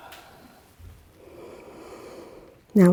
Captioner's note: deep breathing sounds